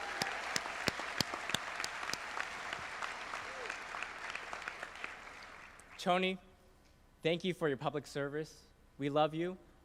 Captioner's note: applause